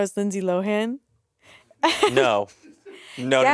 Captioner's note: laughing